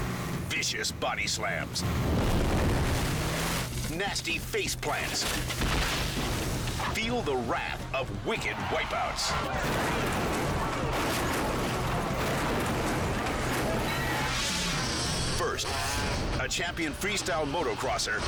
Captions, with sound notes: vicious body slams, (tube crashing) nasty face plants. (cyclist crashing) Feel the wrath of wicked wipe outs. (car crashing) First, a champion freestyle motocrosser